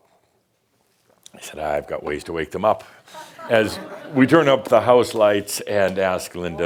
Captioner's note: music stops; some chuckles